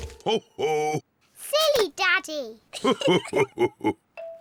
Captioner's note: both laugh